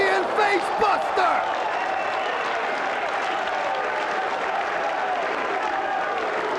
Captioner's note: spectators cheering and applauding